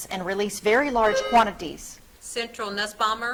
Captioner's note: buzzer trills